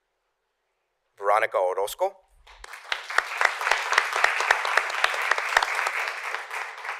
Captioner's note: applause